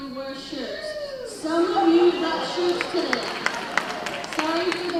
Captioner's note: cheering; applause